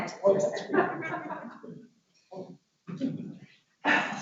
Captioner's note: laughs